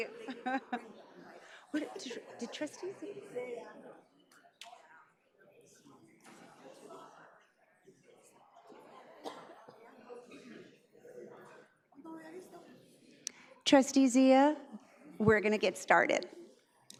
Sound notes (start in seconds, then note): 2.7 laughs; 4.6 crowd chattering